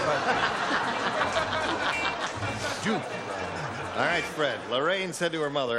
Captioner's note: laughter